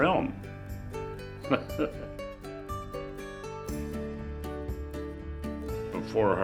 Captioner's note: gentle music; laughing